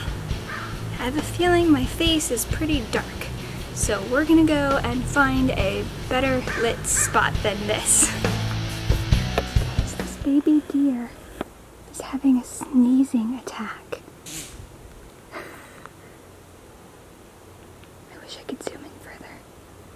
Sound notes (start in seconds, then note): 14.3 baby deer sneezes; 15.3 laughing; 16.7 whispers